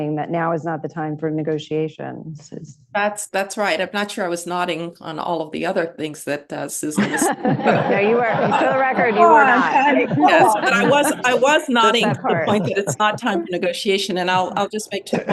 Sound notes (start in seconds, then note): 6.9 laughter